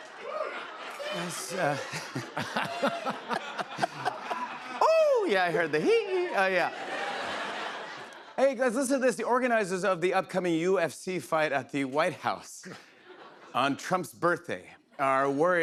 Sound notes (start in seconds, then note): 2.4 laughs